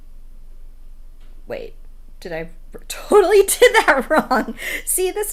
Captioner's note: laughs